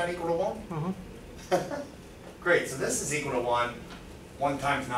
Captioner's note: chuckles